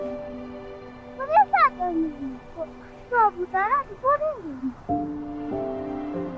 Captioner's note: child speaking in Tibetan